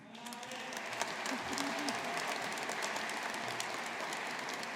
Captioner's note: audience applauding